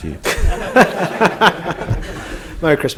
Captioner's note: laughter in the room